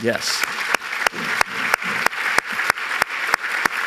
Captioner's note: applause